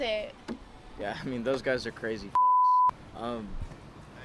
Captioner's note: beep